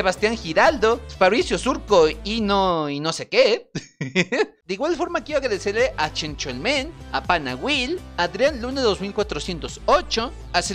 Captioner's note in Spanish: risas